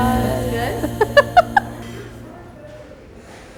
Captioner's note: laughing